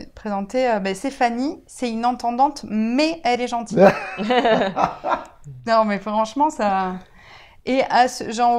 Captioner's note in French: rire